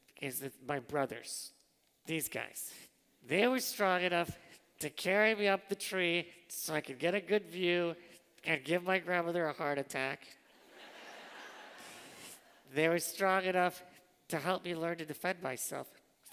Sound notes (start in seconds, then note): 10.5 laughter